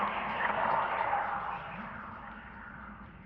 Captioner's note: ghostly voices fade